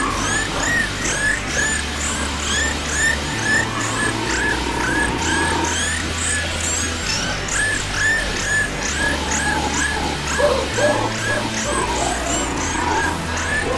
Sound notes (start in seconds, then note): 0.1 cheesy bat squeaks of death; 0.1 grotesque music; 5.6 screams of terror